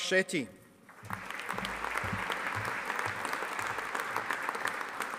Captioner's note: audience applauding